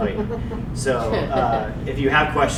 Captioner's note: audience laughing